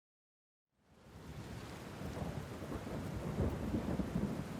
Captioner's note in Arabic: طقطقة المطر